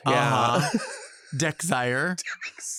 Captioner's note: laughs